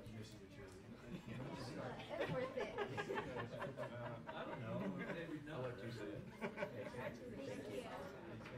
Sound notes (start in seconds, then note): 4.7 laughter